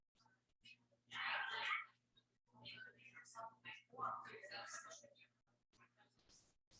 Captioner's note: people chattering indistinctly